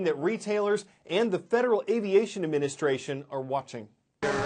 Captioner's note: voice- over